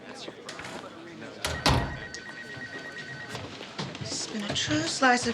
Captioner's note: door closes